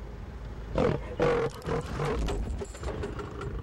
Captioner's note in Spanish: rugidos del león